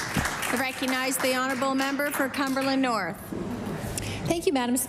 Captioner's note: applause